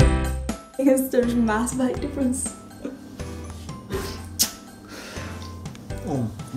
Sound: smooch

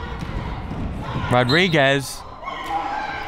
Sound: whistle

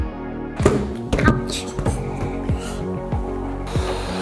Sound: balloon thuds dully; blowing air

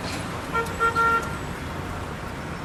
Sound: vehicle honking

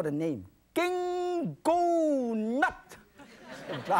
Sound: speaking in foreign language; audience laughing

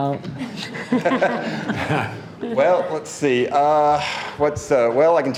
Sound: board laughing

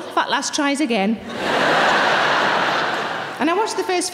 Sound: audience laughing

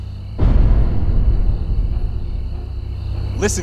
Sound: dramatic booming

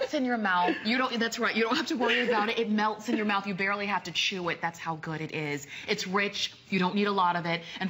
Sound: laughter

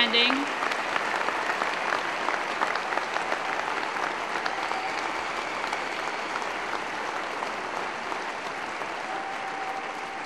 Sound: applause

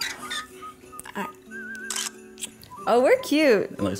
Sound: camera clicks

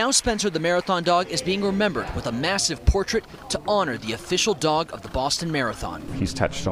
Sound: applause

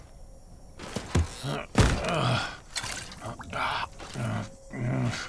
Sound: grunting

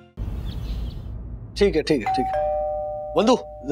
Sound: door bell ringing

